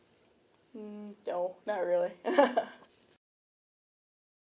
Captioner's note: chuckles